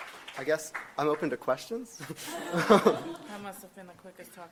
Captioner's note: speaker and audience laughs